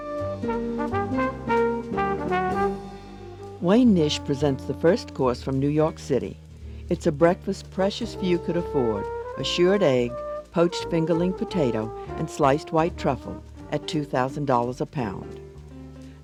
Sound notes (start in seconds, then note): 0.0 jazz music; 3.7 voiceover